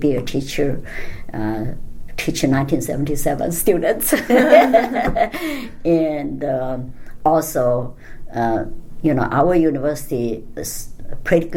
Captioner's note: all laugh